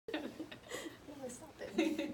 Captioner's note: laughing